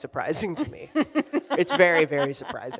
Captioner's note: laughs